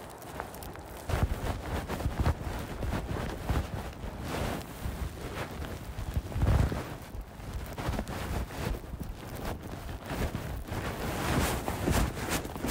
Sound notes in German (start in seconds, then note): 6.5 Geräusch von Schnee herunterdrücken und darauf stampfen